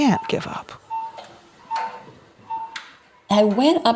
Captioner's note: machine beeping